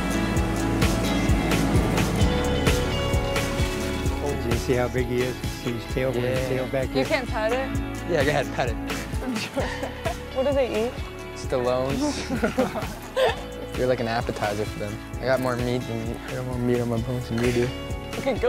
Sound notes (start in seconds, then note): 0.2 light music; 12.0 laughs